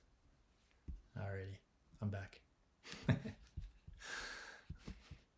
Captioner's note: chuckling